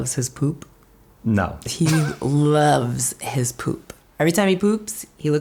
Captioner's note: laughs